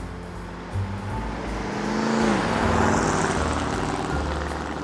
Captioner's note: car engine revving